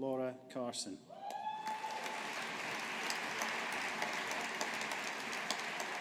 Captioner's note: audience applauding